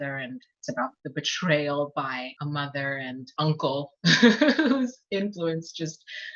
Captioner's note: laughs